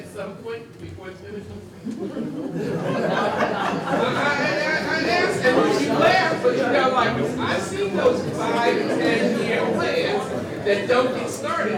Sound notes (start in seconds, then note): 1.8 group laughs